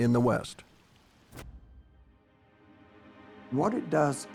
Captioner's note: pages rustle